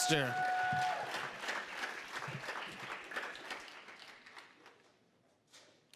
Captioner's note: applause